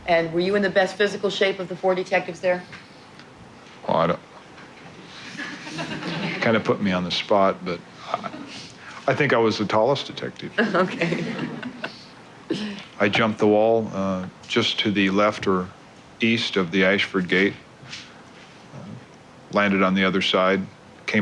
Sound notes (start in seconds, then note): 5.2 galley laughter; 10.6 Clark laughs